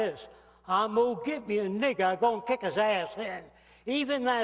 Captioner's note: acento sureño